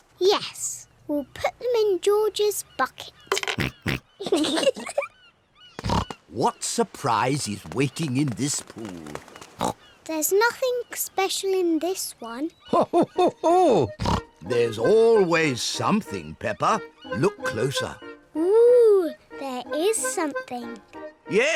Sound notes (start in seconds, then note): 4.0 oinks; 4.2 both giggle